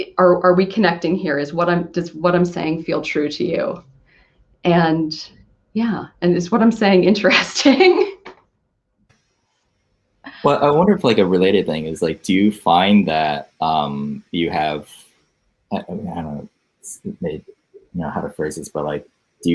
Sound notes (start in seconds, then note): 8.8 laughs